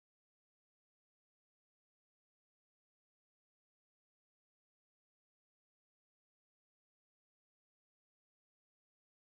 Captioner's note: static buzzing